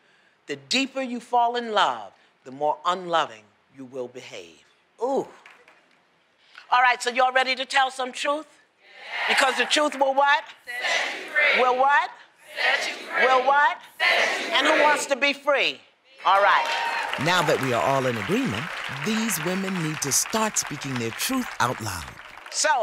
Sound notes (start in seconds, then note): 5.3 applause; 15.7 applause; 15.7 cheering